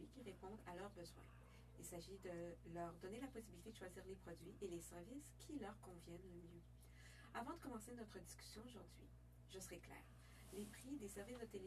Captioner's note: speaking French